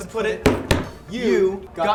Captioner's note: hands slamming